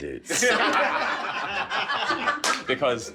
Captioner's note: laughing